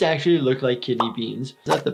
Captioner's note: kidney beans popping